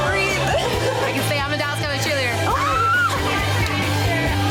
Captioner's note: screams; laughing